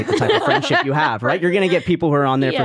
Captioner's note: laughing